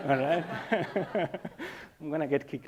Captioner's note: laughing